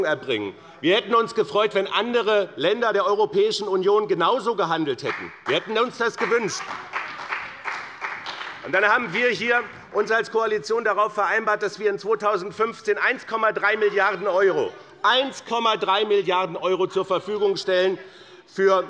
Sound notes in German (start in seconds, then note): 5.0 Beifall bei dem BÜNDNIS 90/DIE GRÜNEN und der CDU